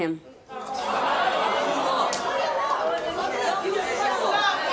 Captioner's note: audience shouting